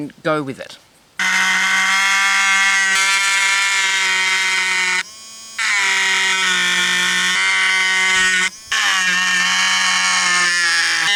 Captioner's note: loud buzzing